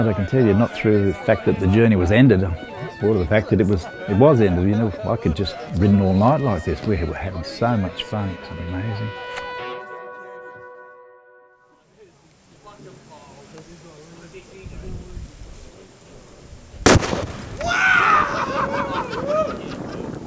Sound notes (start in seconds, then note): 16.8 explosion; 17.9 hollering